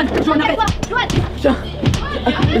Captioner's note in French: Coups de poing